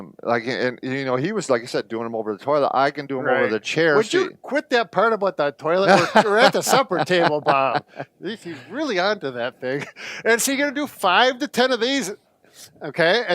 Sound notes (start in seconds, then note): 5.8 laughs; 9.7 chuckles